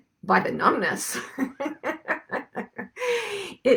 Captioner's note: laughs